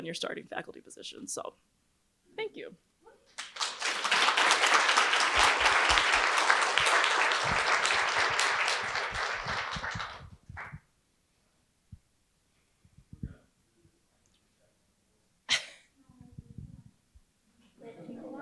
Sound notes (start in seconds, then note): 3.3 audience applauds